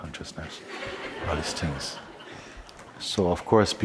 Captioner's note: laughter